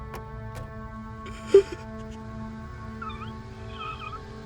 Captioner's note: Ryuichi crying